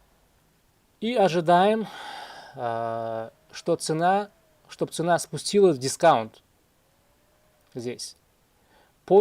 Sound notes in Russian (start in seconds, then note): 1.8 вздыхает; 1.8 тяжело вздыхает